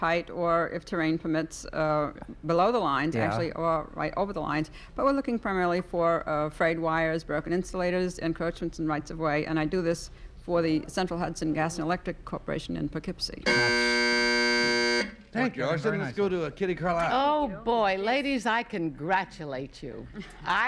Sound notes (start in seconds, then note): 13.4 buzzer sounds